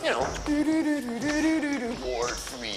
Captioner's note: HUMMING <i>TWILIGHTZONE</i>THEME